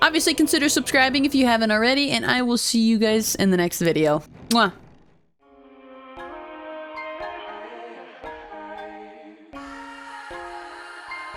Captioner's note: kiss